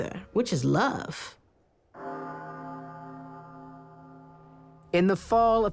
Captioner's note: tower bell chimes